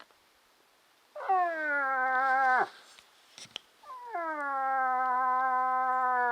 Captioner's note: moose calling